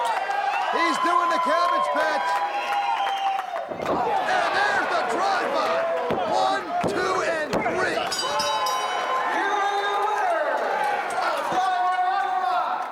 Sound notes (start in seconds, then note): 0.3 crowd cheering; 3.5 crowd cheering; 8.0 bell ringing